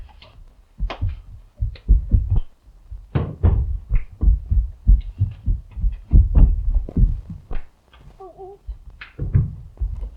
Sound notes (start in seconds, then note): 2.9 bodies thudding; 6.6 blows thudding